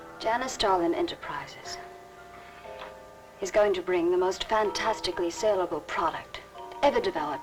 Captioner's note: none